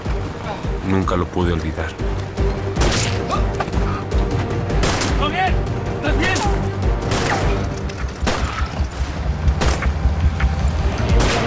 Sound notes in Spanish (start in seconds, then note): 2.8 Disparos; 4.8 Disparos; 7.0 Disparos; 9.8 Ruido de la avioneta